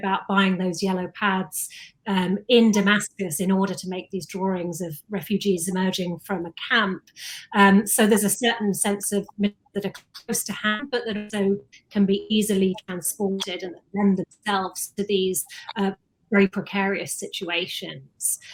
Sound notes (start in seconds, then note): 9.8 audio distorts